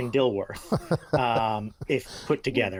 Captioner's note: chuckles